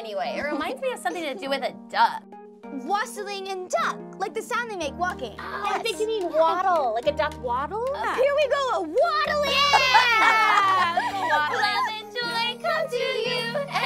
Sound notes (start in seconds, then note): 9.0 all cheer; 9.4 laughs